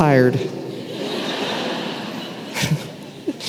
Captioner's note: laughter